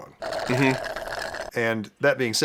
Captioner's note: shlurp